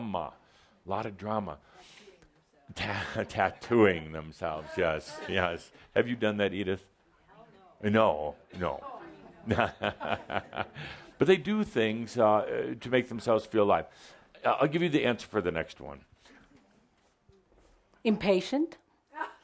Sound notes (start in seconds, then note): 9.5 Adamus chuckles